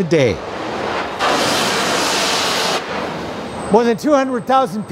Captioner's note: steam hissing